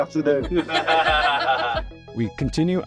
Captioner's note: laughing